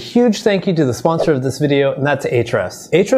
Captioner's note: air whooshing